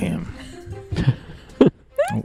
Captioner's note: more laughter, joining in laughing